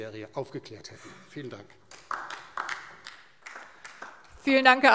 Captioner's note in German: Beifall DIE LINKE